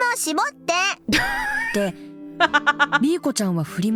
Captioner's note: chuckles